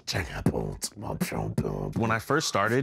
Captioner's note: beatboxing